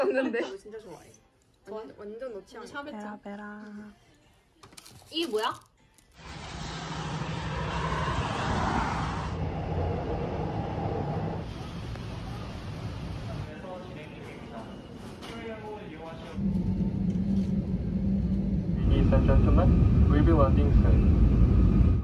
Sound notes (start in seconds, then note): 16.4 heart pounding